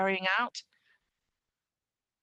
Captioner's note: speaking French